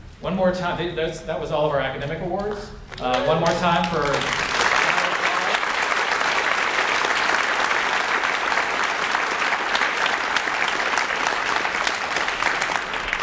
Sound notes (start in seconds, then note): 4.8 audience applauds